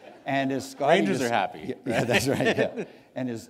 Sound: laughter

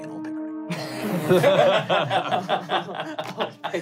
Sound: laughing

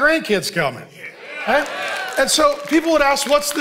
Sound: congregation cheering

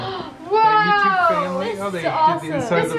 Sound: gasps

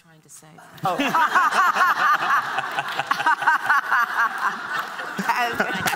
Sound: laughter

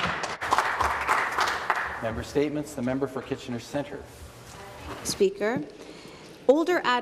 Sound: applause

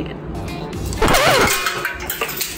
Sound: record scratch; sugar shatters

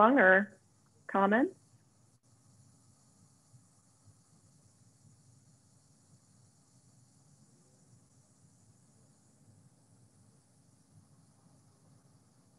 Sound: silence

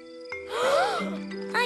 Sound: surprised gasp

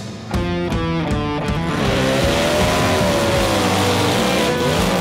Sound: loud motors rev

